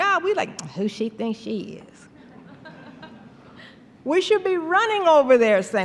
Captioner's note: snarling tone; laughter